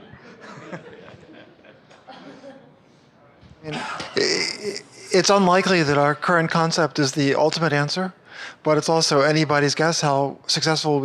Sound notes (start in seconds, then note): 3.7 voiceover